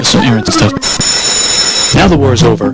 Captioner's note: hi-Fi buzz